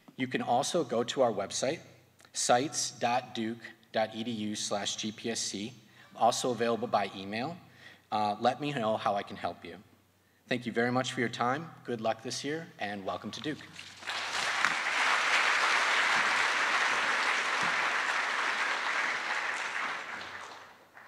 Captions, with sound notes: You can also go to our website, sites.duke.edu/gpsc, also available by email. Let me know how I can help you. Thank you very much for your time. Good luck this year and welcome to Duke. (attendees applauding)